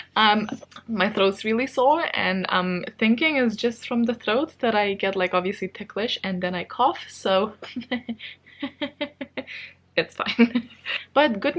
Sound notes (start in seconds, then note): 7.6 strange laughing